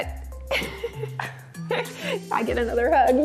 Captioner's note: laughs